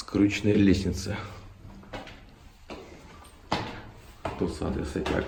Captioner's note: footsteps sound